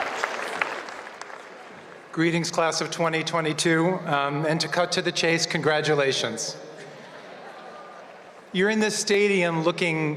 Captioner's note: cheers and applause